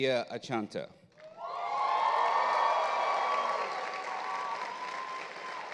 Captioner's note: audience cheers